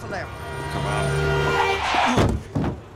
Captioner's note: voiceover; tires screech